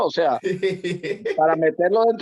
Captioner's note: laugh